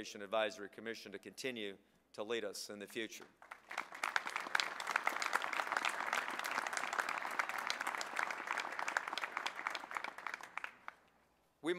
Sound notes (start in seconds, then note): 3.3 applause